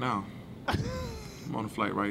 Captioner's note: laughing